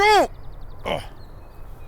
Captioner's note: grunts